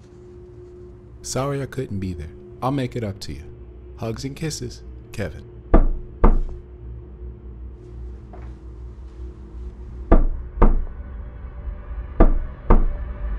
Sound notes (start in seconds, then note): 5.7 knock, knock; 10.1 knock, knock; 10.9 suspenseful music; 12.2 knock, knock